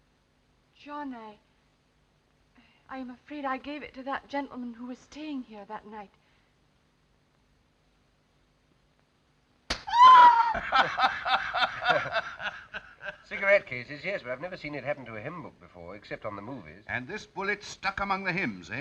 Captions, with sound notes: I'm afraid I gave it to that gentleman who was staying here that night. [ slap ] [ screams ] [ men laughing ] Cigarette cases, yes, but I've never seen it happen to a hymn book before. And this bullet stuck among the hymns, eh?